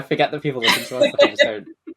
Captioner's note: laughs